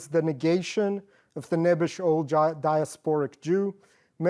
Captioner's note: non-english